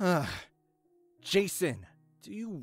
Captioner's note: sighs